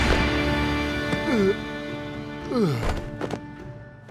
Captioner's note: groaning